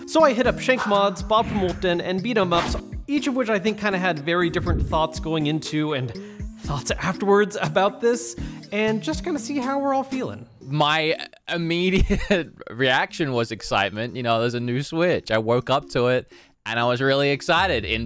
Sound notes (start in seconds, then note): 11.9 chuckles